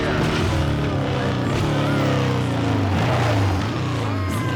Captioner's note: motorcycle engine roaring